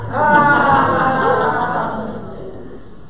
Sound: audience laughter

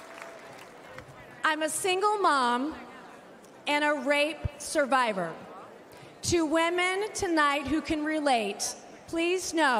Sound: applause

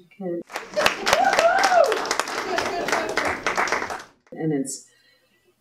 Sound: applause and cheering

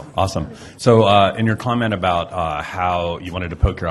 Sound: voiceover

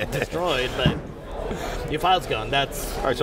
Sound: laughter

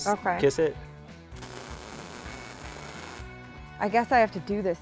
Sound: electricity crackling

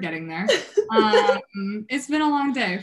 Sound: laughing

